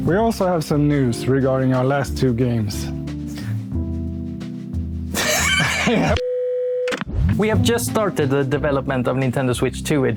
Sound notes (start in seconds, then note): 5.1 laughs